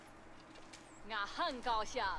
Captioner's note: villager woman dunks in mandarin